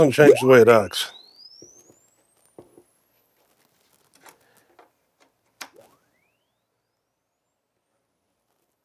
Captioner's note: silence